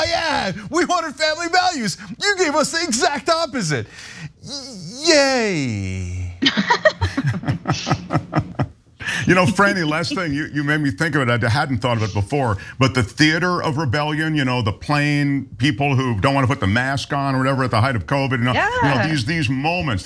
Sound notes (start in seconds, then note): 9.5 laugh